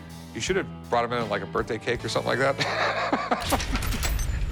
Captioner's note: laughs